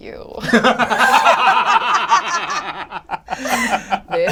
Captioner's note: all laugh